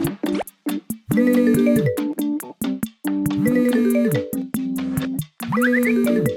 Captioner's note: phone ringing and vibrating; zipping plays